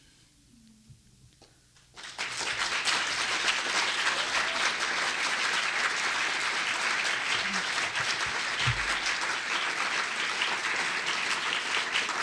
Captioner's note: applause